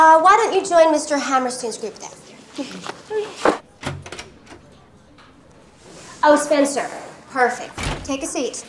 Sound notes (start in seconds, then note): 3.4 door opens